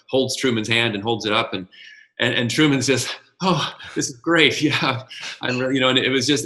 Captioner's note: sarcastically